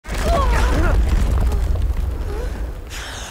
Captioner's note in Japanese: 震動音